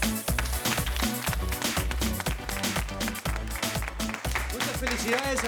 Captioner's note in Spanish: Aplausos